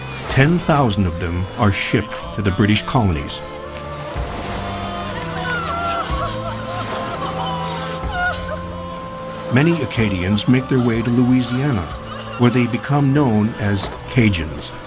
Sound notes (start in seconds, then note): 4.6 women sobbing